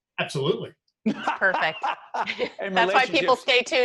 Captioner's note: laughing